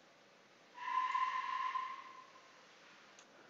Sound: strange sounds from evil spirits around

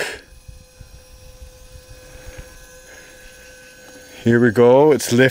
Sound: electric motor runs

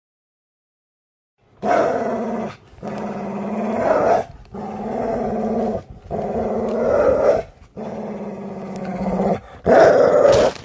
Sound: sound of rope tug with a dog

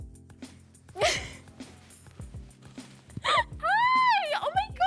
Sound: Bella laughs

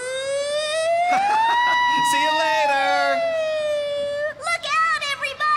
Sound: imitating Siren; chuckling

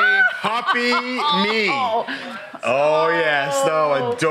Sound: laughs

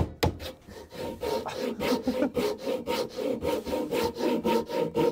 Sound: panting

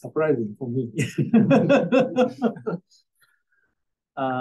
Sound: laughter

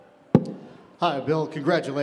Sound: microphone thumps

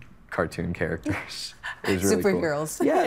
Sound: laughing

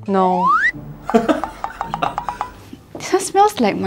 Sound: awkward Laughs

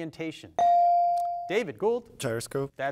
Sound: device dings

